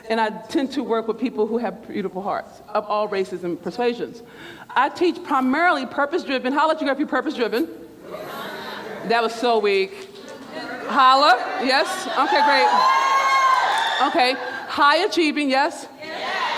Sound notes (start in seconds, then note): 8.0 crowd hollers; 11.3 crowd hollers; 15.8 crowd